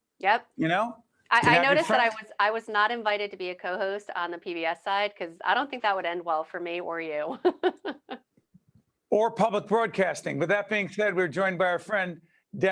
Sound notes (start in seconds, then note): 7.3 laughing